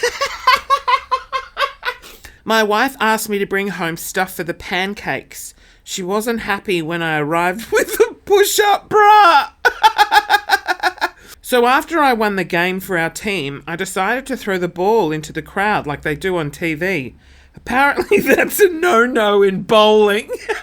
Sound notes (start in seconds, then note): 0.0 laughing; 9.0 laughing